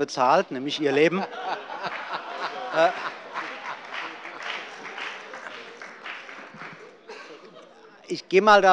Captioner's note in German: Heiterkeit und allgemeiner Beifall